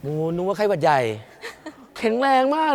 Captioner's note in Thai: เสียงหัวเราะ